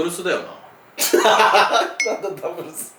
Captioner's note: laughs